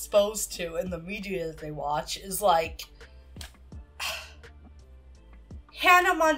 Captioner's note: sighs